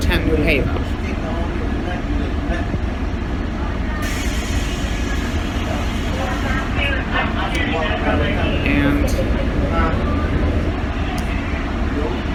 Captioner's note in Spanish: Charla indistinta